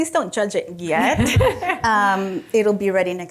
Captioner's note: group laughing